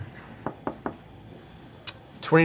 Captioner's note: knocks on table